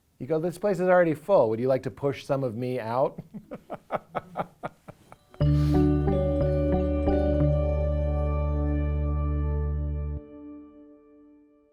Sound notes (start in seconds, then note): 5.1 laughing